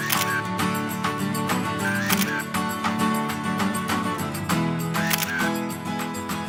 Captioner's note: camera click